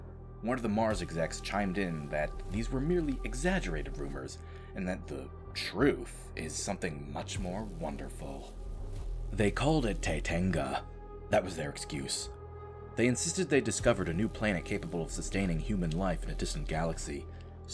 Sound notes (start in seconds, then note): none